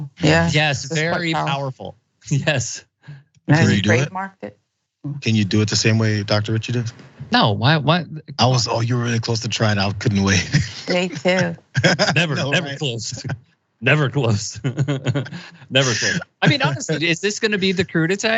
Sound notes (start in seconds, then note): 10.6 laugh